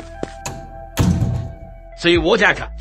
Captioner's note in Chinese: 關門聲